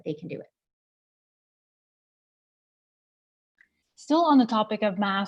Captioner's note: silence